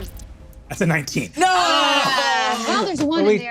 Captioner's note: groans